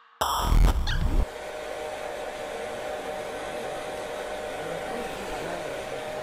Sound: hair dryer blowing

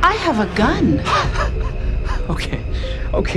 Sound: laughs

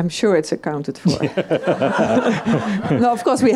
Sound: audience laughs

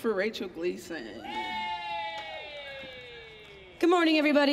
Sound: audience cheering

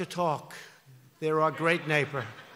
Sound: laughter

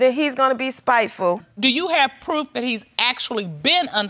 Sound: none

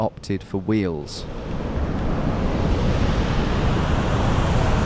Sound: water rushing

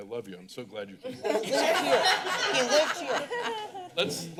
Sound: laughter

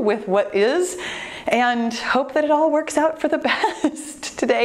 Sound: laughs

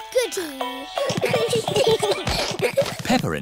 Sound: all giggling

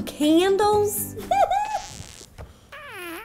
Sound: enamored giggling

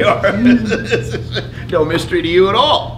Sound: laughs

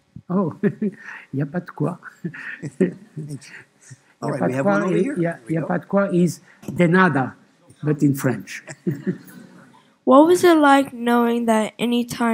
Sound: speaking French

